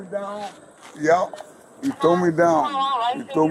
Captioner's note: radio chatter